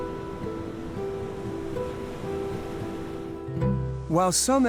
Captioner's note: waves crashing; pensive music continues